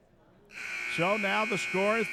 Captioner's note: buzzer sounding